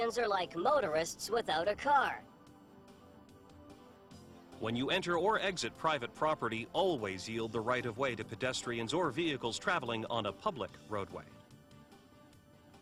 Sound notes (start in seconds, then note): 4.9 voiceover